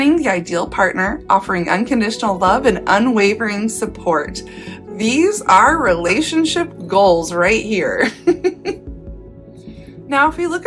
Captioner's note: giggle